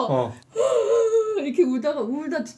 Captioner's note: sobbing